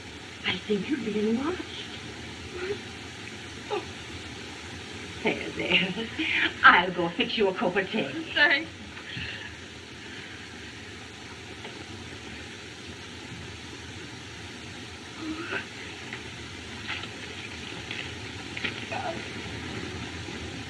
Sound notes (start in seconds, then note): 3.6 moans